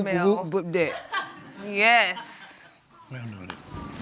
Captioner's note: audience laughing